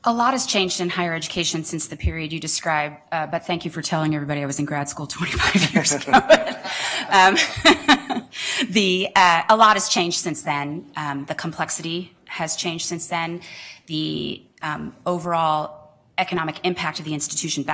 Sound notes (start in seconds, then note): 5.4 laughter